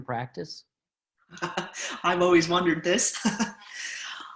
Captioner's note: chuckles